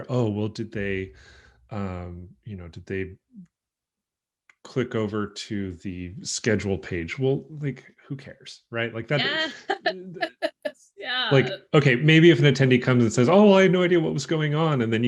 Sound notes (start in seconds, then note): 8.7 laughs